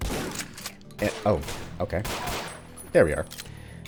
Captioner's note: continued gunfire